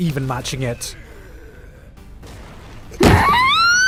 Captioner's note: macho noises; Chika squeal